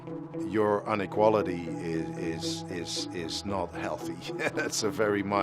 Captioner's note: laughs